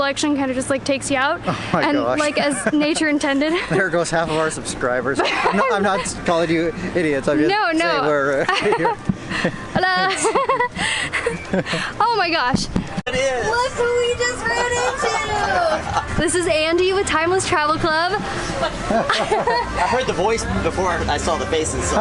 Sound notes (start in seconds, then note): 5.1 laughter; 8.3 laughter